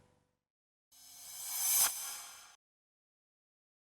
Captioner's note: quick outro sound